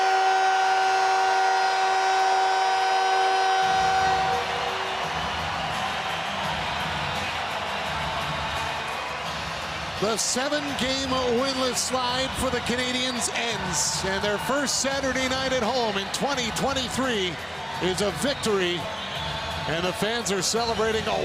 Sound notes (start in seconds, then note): 5.9 horn Sounding; 15.2 cheering and Applause